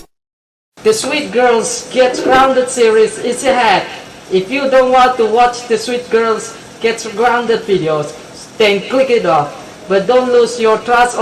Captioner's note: in My IRL Voice